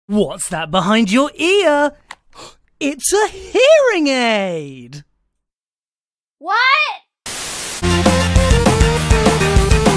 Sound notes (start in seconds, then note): 2.3 gasp; 5.0 awkward Silence; 7.2 static sound